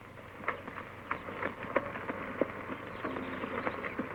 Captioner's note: hooves clopping